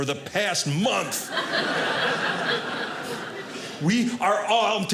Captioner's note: audience laughing